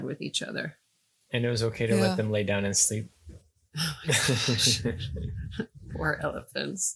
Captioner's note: laughing